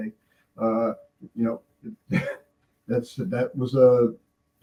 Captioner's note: laughing